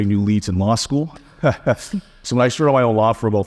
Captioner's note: chuckling